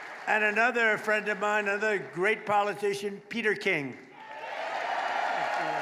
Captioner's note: applause